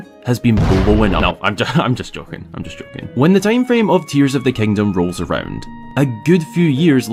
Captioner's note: bang